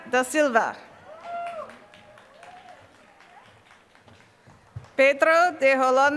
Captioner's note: applause